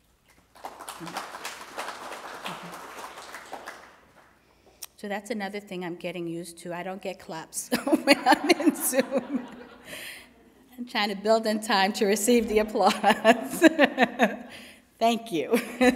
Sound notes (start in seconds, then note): 0.3 applause; 7.8 laughs; 15.7 laughs